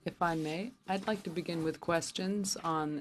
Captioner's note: speaking French